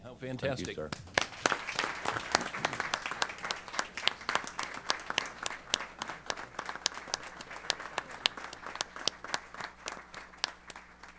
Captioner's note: applause